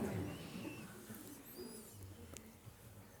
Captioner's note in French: rires